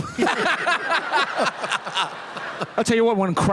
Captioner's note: laughter